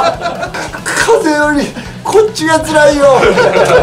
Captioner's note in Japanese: 笑い; そっとガムテープを剥がす音; 笑い